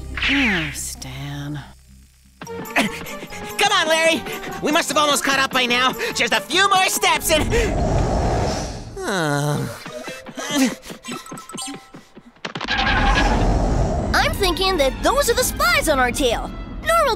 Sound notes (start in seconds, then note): 2.8 panting; 7.5 sigh; 7.5 grunt; 13.0 spaceship roars